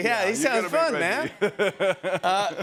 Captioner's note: laughs